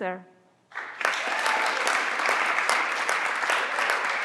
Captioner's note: everyone claps